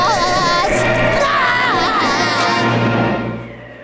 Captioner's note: moaning